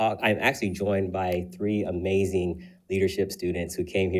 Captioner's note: none